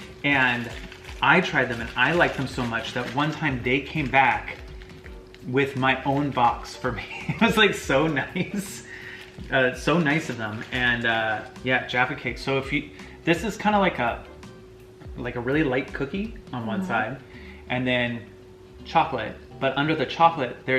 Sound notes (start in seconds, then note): 6.9 laughs